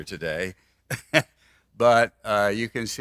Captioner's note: laughs